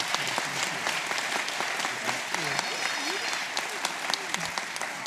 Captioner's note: applause